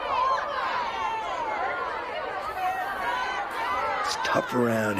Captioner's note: inmates clamoring